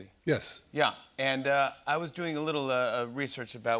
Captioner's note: none